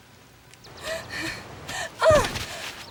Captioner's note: gasp